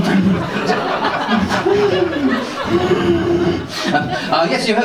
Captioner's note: laughs awkwardly